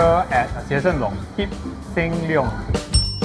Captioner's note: in chinese & english